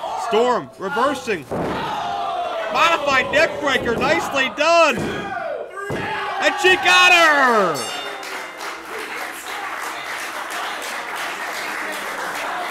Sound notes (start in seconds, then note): 7.2 bell rings; 7.8 applause